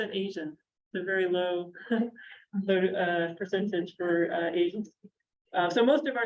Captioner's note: chuckles